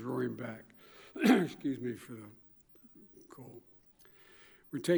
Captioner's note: clears throats